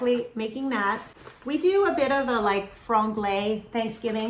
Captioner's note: speaking in foreign language